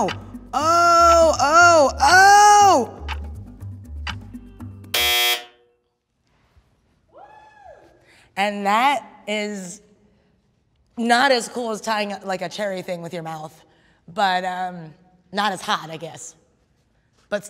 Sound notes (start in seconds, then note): 2.6 clock ticking; 4.9 buzzer sounding